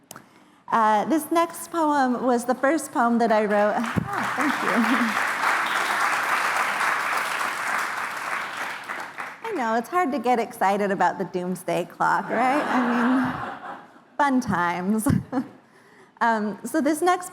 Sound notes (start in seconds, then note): 3.4 applause